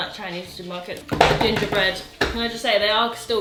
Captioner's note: hands thudding